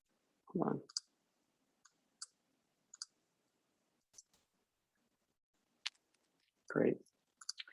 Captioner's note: typing